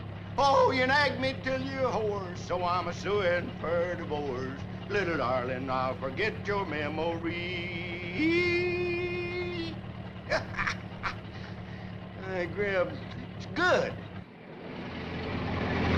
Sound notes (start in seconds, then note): 10.3 Harris chuckles softly